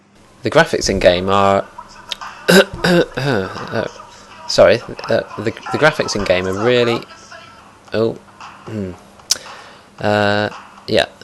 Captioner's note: cough